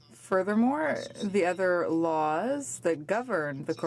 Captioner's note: speaking in french